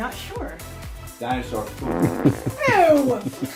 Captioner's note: fart sound